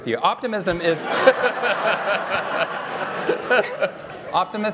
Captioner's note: laughter